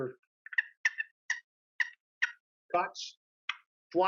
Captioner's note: turkey call sounds